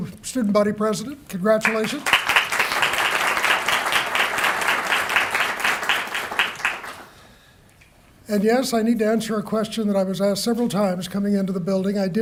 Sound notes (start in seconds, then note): 1.6 applause